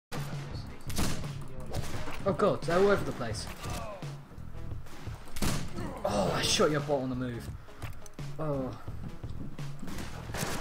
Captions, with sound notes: *several gunfire* Oh God, they're all over the place! Oh, I shot your bot on the move! *A sigh of proudness even though it wasn't an amazing kill*